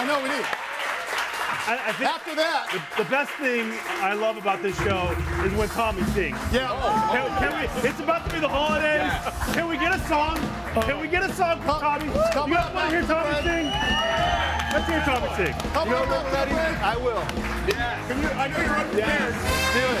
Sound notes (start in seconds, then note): 14.1 audience cheers